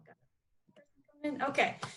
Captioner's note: faintly speaking